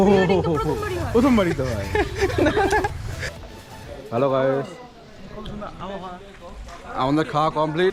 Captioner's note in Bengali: সশব্দ হাসি